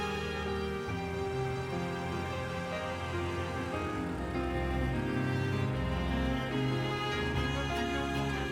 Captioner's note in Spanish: ruido del auto al alejarse